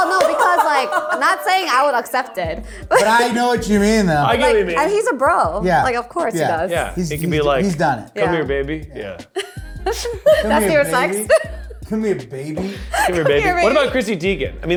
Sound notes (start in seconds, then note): 9.3 laughs